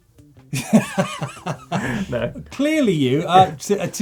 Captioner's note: laughs